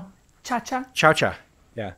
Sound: speaking foreign language

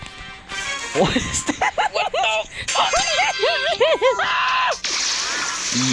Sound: laughing

